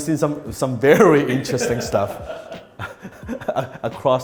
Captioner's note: laughing